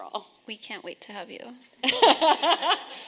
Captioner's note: laughing